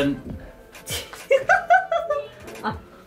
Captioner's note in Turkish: Gülüşmeler